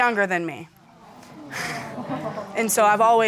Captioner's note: audience exclaiming